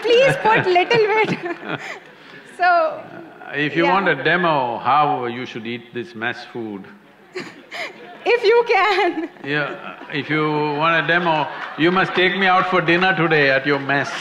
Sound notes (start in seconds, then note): 0.0 Sadhguru laughs & laughter; 5.9 laughs; 7.9 laugh